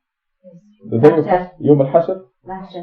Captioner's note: speaking Farsi